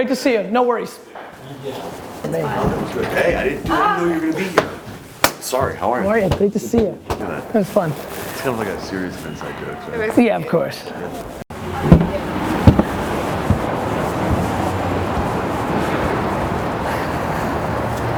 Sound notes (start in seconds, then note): 3.6 woman exclaims; 11.5 traffic noise